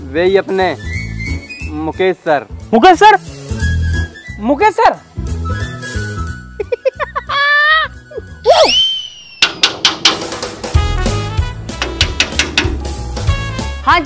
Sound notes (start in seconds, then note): 6.6 laughs; 9.4 knocking on the door; 11.7 knocking on the door